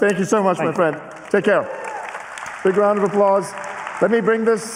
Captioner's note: applause